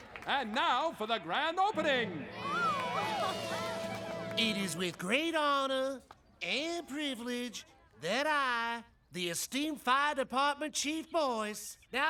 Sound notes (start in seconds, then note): 2.2 excited Murmurs